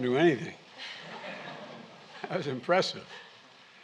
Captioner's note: laughter